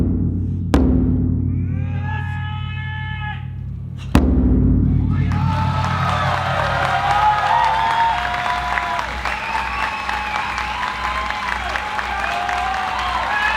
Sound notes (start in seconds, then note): 1.8 performer yelling; 5.1 applause and cheering